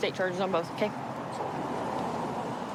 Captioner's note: vehicles driving